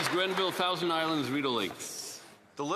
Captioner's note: applause